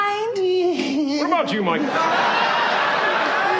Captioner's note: Risos